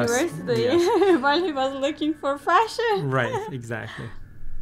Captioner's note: laughing